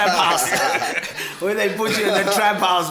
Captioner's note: everybody laughs